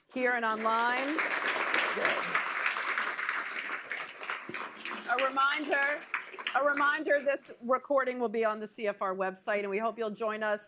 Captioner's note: applause